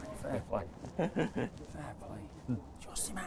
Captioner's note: laughing